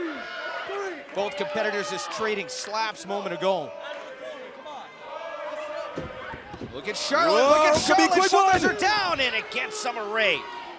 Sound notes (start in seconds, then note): 6.8 fans chanting